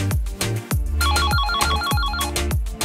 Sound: easy Music; doorbell

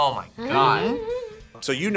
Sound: laughs

